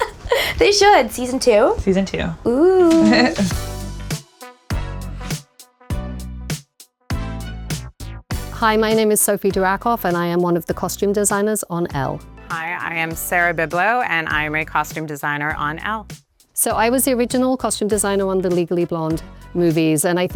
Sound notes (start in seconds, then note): 0.0 laughing; 2.8 laughing; 3.5 bright upbeat music